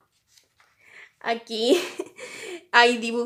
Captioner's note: happy giggle because I love my ocs